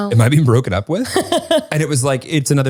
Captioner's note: laughs